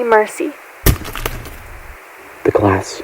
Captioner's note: thud